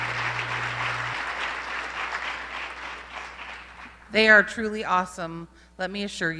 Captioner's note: applause